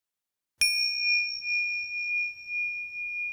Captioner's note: bell rings